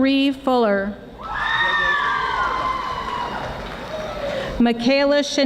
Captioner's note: audience screaming